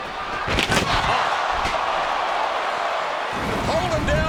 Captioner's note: body thuds; table thuds